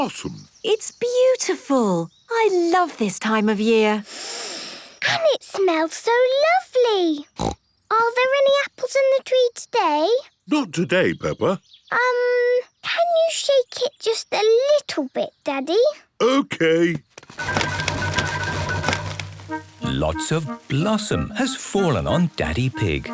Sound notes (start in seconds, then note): 4.1 Peppa inhaling deeply; 7.4 snorting